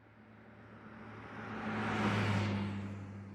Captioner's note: car zooming